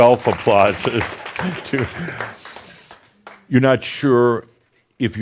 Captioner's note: now more applause